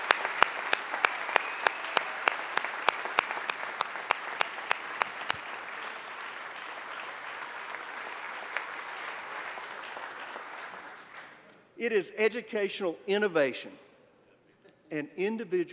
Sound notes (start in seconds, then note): 6.1 applause